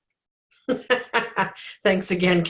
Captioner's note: laughs